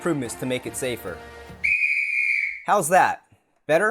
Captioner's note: whistle!